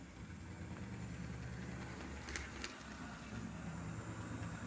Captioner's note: 8517 humming past energetically